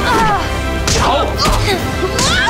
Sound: groaning

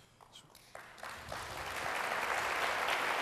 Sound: applause

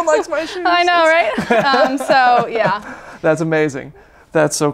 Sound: laughs

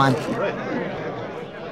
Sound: gasps

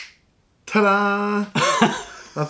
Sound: laughter

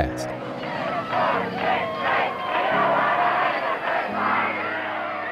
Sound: protestors chanting

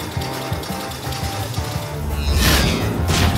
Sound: distant scittering

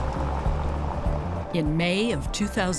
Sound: car engine roaring

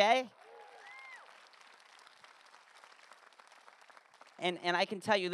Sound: audience applause

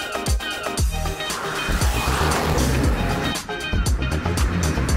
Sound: engine roaring

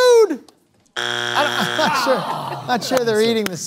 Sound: buzzer sounds

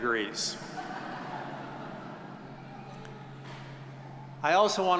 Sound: audience chuckles

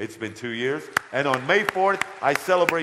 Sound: audience applause

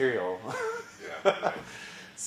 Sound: laugh

